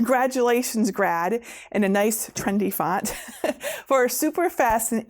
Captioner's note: laughing